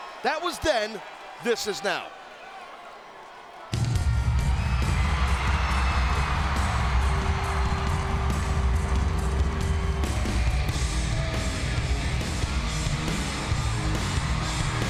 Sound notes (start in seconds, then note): 3.2 audience chattering; 4.1 upbeat music; 5.4 audience cheering and clapping